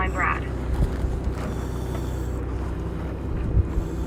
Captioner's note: air hissing